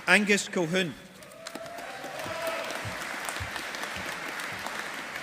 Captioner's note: audience applauding